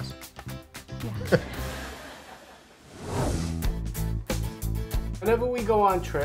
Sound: crowd laughs

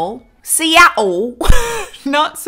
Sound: chuckles

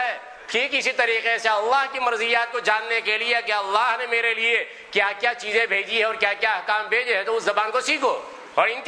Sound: Arabic

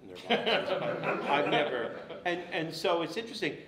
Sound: laughter drowns out speaker

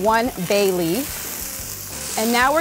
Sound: sizzling

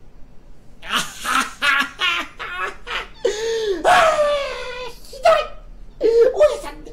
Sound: laughter

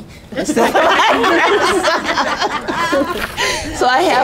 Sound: laughter

